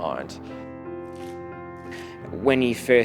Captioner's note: lettuce crunching